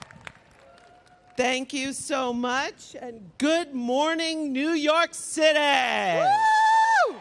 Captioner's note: applause